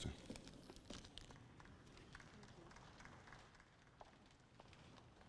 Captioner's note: audience applauds